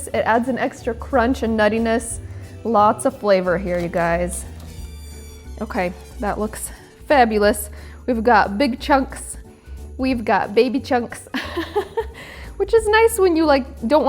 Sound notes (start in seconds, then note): 4.4 light music continues; 11.9 laughs